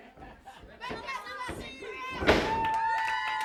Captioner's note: audience hollers; audience cheers